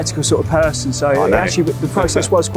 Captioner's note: laughs